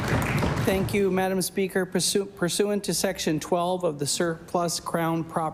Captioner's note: applause